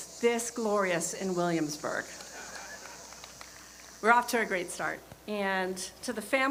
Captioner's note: laughter